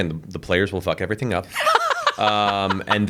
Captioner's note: laughs